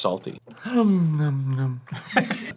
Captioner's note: inhaling